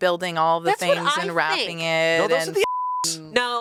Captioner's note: beep